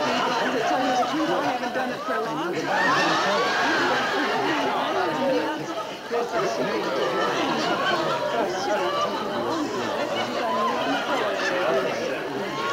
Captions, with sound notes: - To tell you the truth, I haven't done it for a long time. (audience laughing) (people chattering)